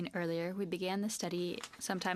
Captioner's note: speaking French